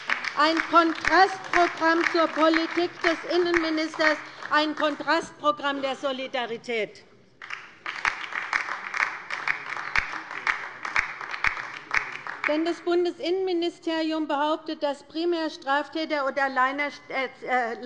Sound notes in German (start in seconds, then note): 7.4 Beifall bei der LINKEN